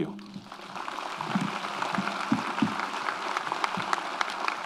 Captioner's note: audience applauds